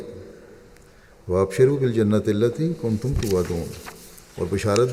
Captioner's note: Arabic